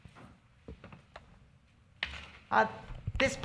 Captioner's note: none